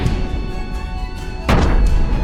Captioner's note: impact